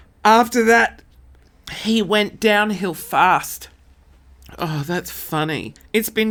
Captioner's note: none